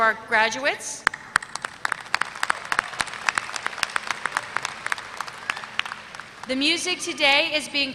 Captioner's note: applause